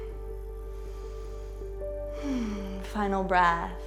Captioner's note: deep breathing